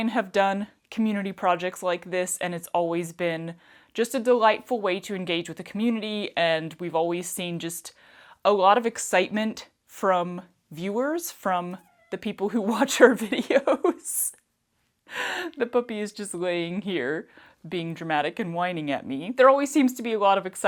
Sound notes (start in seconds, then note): 13.2 laughter